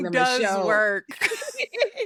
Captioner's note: laughs